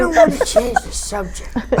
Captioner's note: laugh